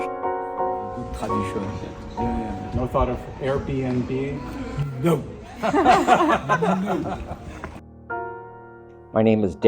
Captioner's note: group laughs